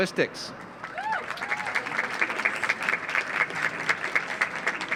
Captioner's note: audience applauds